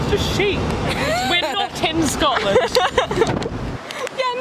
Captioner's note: laughs